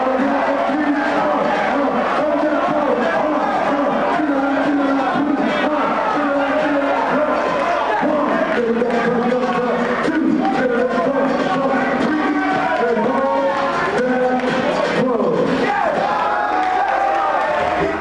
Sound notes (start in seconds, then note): 0.0 commentator speaking; 0.0 crowd cheering; 5.4 commentator speaking; 5.4 crowd cheering; 15.4 commentator speaking; 15.4 crowd cheering